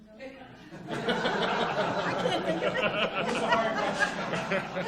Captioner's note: audience laughs